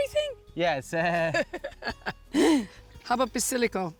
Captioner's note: both laugh